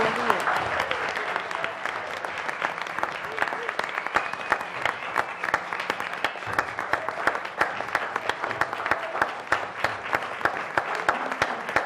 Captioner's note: applause